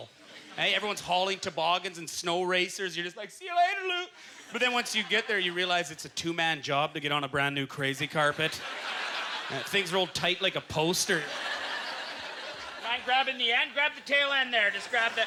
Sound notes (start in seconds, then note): 8.2 audience laughter